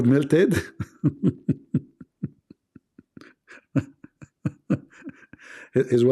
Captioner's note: Ketawa